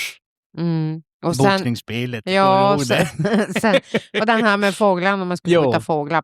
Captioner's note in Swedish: skratt